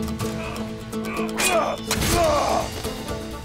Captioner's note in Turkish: Dövüşme sesleri